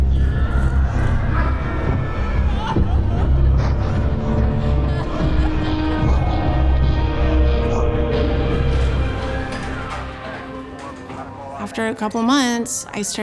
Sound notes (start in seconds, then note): 0.1 uneasy music continues; 3.1 people crying; 7.6 buzzing; 8.6 ambulance siren